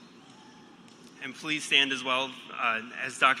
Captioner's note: cheers and applause